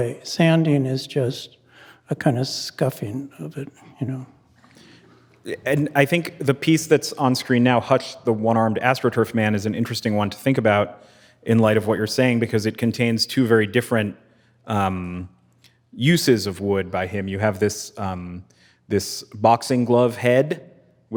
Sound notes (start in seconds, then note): none